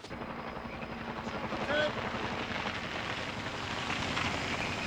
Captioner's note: helicopter whirring